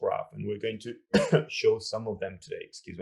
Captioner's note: coughing